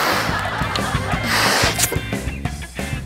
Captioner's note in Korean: 혼신의 입바람